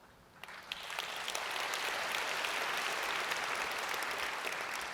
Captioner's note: audience applauds